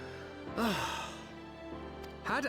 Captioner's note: sighs